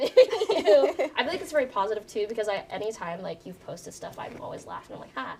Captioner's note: all laughing